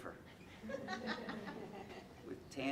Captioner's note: audience laughing